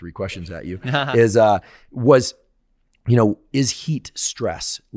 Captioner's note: chuckling